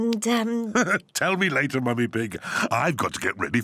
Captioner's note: laughs